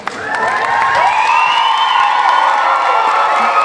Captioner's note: cheering